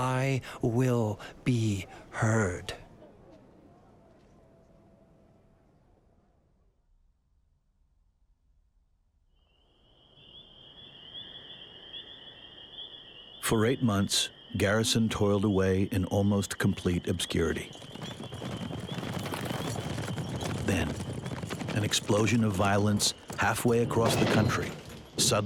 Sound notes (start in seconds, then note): 18.6 horses' hooves clopping